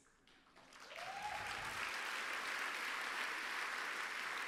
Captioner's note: applause